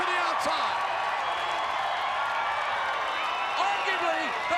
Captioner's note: crowd cheering